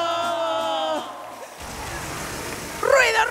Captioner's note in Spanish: Aplausos